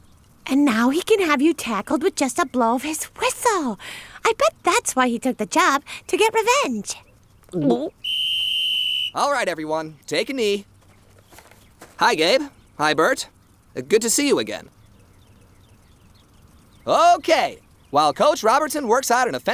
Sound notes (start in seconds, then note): 7.3 gulping; 8.0 whistle